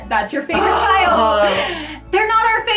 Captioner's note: groans